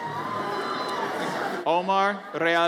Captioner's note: audience cheers